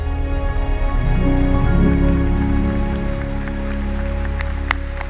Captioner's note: crowd applauding